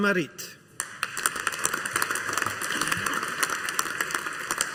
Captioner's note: audience applauding